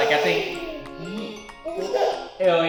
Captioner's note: cooing